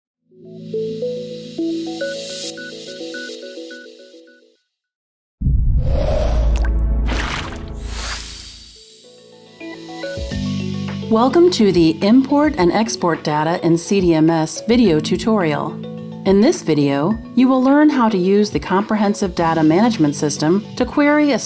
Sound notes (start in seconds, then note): 0.0 upbeat music; 5.4 sound effects; 9.0 upbeat music fades in